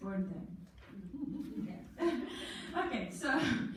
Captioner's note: laughter